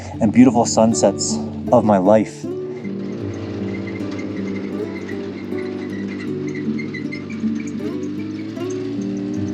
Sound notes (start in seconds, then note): 2.4 engine rumbling; 2.4 soft music